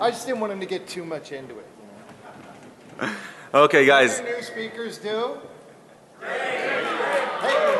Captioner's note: laughing